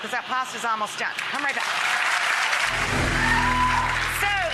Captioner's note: audience applauding